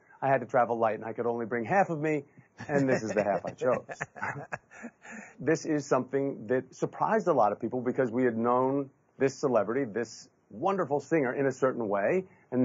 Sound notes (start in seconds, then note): 4.1 laughing